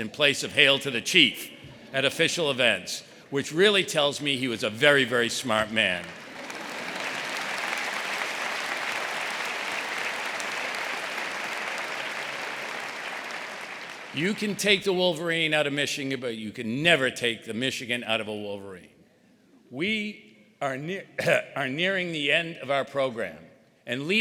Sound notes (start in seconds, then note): 5.5 audience applauding; 6.4 audience laughing